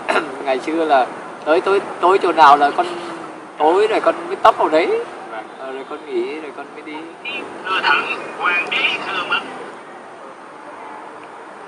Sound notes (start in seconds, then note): 7.2 phone sound